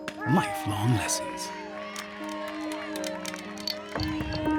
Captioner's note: cheers and applause